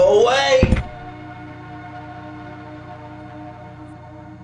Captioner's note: thud